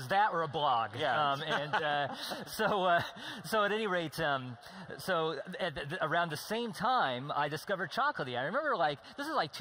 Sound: laughing

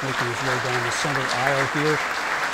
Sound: applause

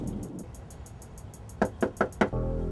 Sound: door knocking; tense music

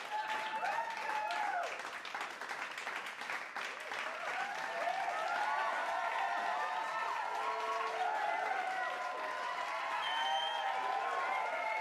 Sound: crowd cheering and clapping

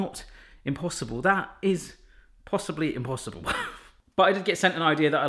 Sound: laughs

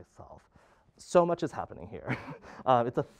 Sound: laughing

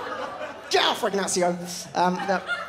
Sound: drops accent

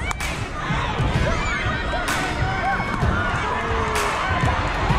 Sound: crowd cheering

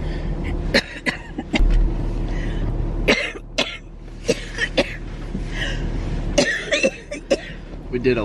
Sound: coughing

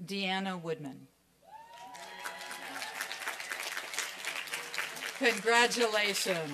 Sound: applause and cheering; applause

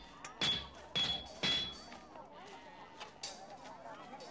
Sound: banging

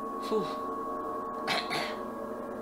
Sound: dying cough

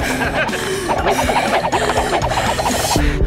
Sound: increasingly hyperventilating

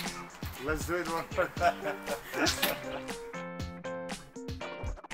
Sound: upbeat music; laughs

